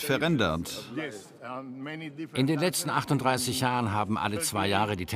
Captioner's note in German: englisch